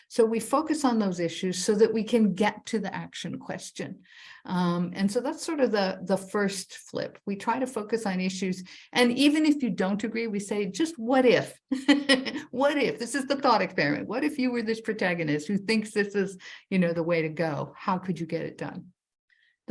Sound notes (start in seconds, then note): 11.7 chuckling